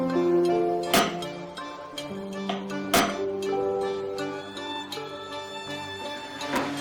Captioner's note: reflective music; tools banging